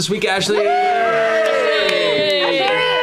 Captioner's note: cheering